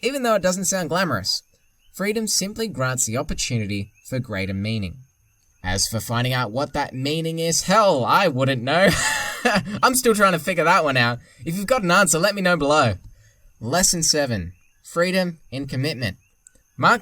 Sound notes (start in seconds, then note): 8.6 laughing